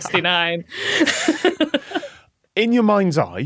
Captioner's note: laughs